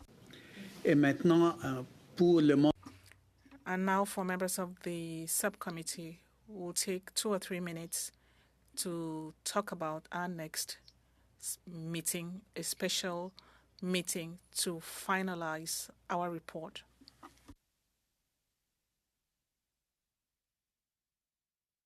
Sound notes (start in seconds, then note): 5.6 speaking French